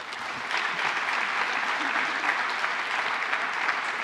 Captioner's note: applause